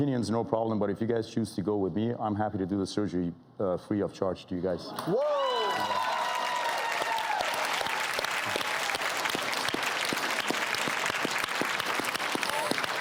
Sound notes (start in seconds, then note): 5.0 audience cheering